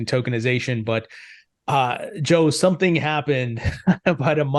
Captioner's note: chuckles